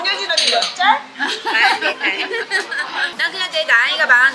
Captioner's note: laughing